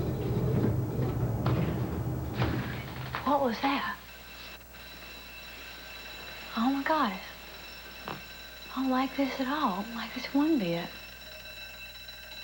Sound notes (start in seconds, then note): 3.4 elevator stops; 6.0 alarm rings